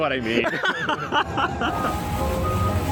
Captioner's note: laughter